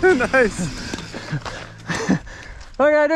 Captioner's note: laughs; heavy breathing